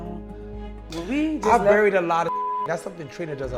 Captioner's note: beep